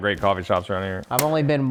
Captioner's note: metal snapping